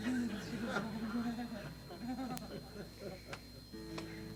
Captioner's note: audience laughs